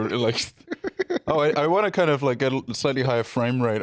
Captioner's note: giggling